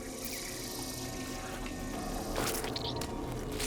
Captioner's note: liquid squishing; liquid squelching